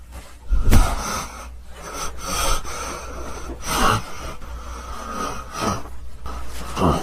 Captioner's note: yeti breathing heavy